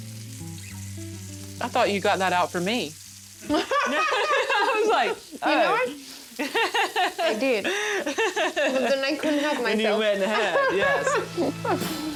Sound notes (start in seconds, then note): 3.4 Vivian and Pati laugh; 6.3 laughs